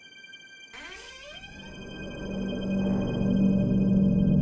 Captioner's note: door creaks